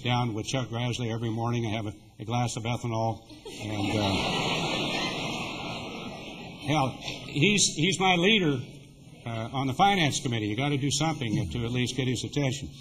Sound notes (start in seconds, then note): 7.0 laughter